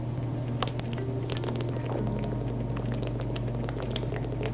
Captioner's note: gurgling water